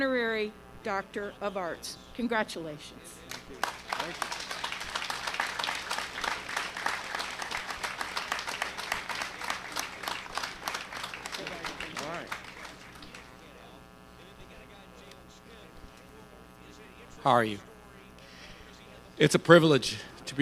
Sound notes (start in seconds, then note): 3.2 applause